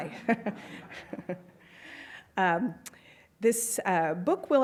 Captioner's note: laughs